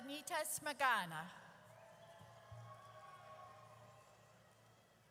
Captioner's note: audience cheers